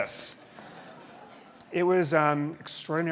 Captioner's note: audience chuckling